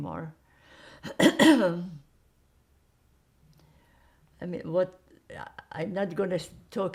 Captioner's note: clears throat